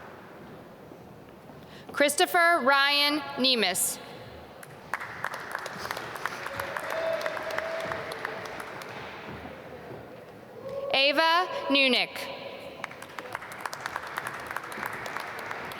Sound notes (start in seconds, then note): 4.6 applause; 12.8 applause